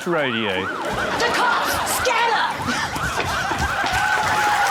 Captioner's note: sirens wail; cheering, applause